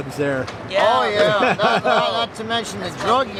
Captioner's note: interview laughs